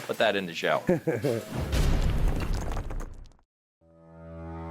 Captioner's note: logo thuds